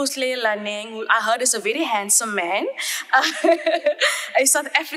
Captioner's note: chuckles